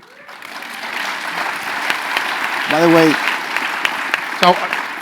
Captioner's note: applause